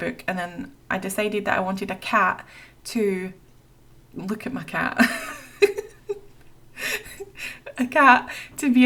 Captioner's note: laughs